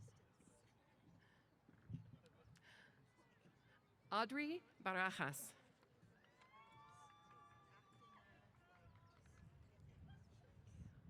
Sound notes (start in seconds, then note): 6.2 cheers